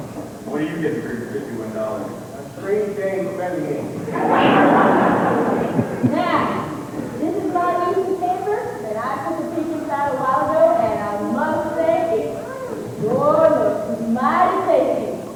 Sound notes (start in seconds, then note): 4.0 laughter